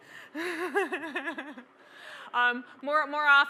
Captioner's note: laugh